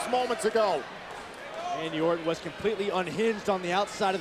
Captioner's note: applause